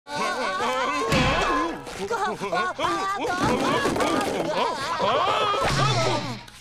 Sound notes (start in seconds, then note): 1.7 groaning